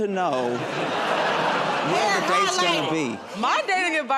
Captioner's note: laughter